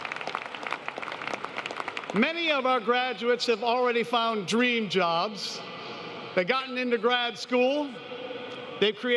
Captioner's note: applause